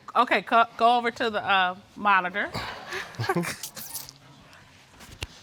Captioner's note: both chuckling